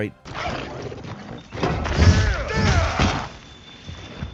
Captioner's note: character shouting